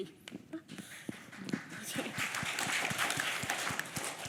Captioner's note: audience applauds